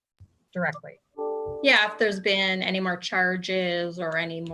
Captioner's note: computer chime